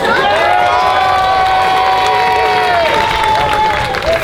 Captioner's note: cheering